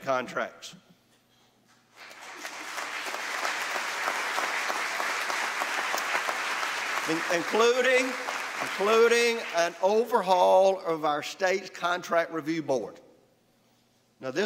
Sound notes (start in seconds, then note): 1.9 applause